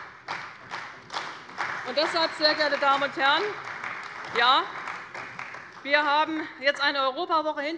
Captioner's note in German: Beifall bei der CDU und dem BÜNDNIS 90/DIE GRÜNEN